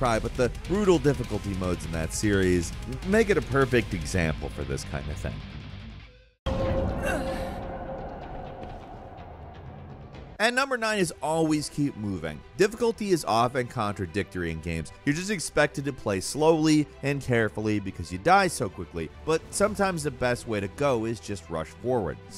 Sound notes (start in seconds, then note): 6.4 tense music; 7.0 man grunts